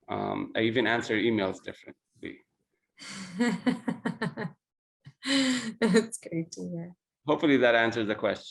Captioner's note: laugh